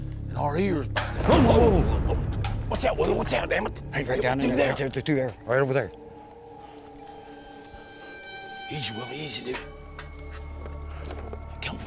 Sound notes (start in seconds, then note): 0.9 metal clangs